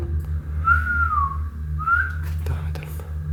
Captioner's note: whistling